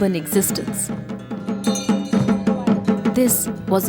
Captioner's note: intense drumming; bell jingling